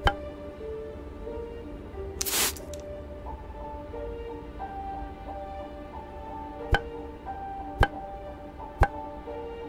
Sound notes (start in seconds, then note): 0.2 bat clanking; 2.2 spraying mist; 6.9 bat clanking